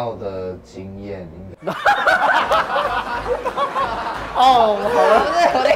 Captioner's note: laughing